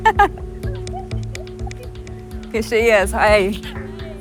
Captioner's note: person laughing